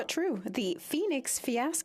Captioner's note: speaking French